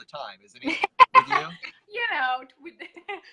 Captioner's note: laughs